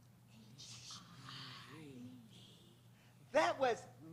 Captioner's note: whispering